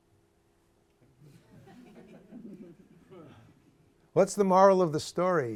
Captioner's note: laughter